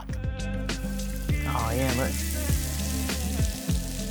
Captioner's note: onions sizzling